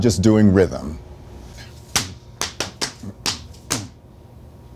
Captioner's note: rhythmic clapping